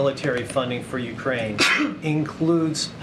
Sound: sneezes

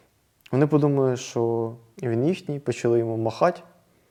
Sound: Russian

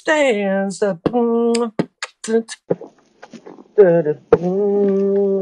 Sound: beatboxing

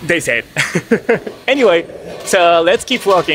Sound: laughs

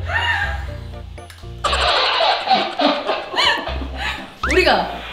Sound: lolololol

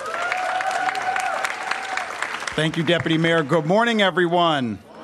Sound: applause

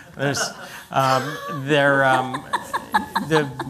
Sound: laughter

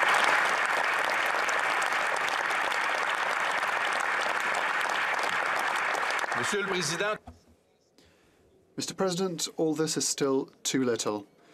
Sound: applause

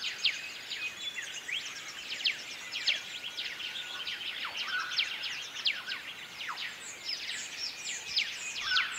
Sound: birds chirping

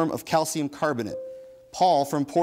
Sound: bell dings

